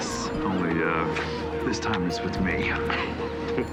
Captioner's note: laughs